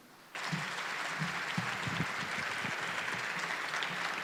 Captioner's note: audience applauding